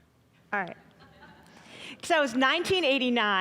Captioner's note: audience laughing